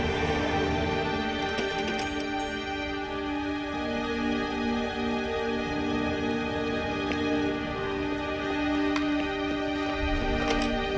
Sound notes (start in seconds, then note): 1.5 doorknob rattling